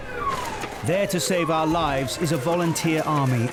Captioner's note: siren wails